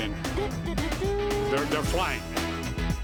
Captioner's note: <i> hums fanfare</i>